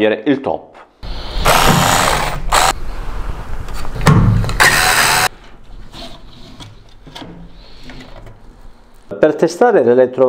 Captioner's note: work noise